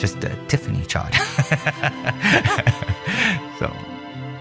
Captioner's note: laughs